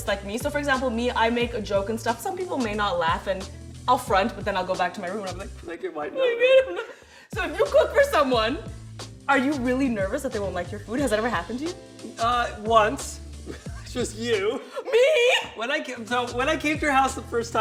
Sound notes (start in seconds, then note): 6.0 sobbing